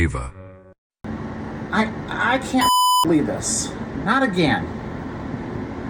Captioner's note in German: Stimme brüchig